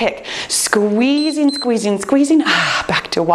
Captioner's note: timer beeps